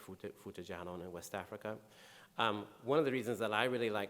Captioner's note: speaking in foreign language